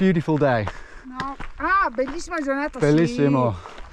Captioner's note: woman speaking in Italian